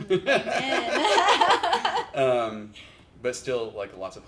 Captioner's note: laughs